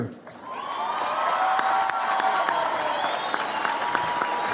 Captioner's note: audience applauds